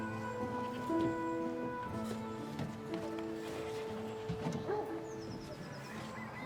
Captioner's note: dogs barking; sheep bleating